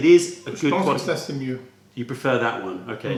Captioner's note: french